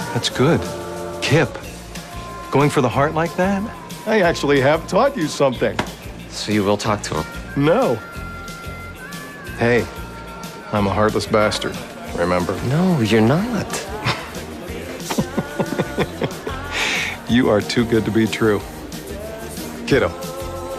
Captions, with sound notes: That's good, Kip, going for the heart like that. I actually have taught you something. - So you will talk to him? - No. Hey, I'm a heartless bastard, remember? No, you're not. [chuckling] You are too good to be true. Kiddo, have a drink.